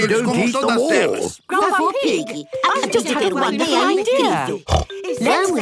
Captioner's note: snort